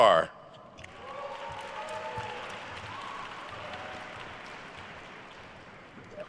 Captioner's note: attendees cheering and applauding